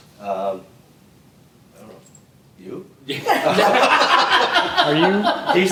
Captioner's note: laughter